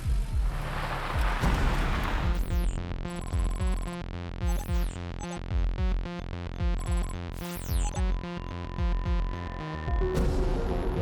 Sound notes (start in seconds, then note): 2.0 interface whirring; 2.0 suspenseful techno music